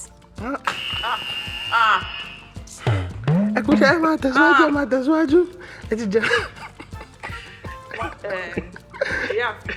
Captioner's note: laughs